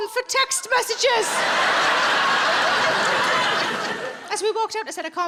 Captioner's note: audience laughs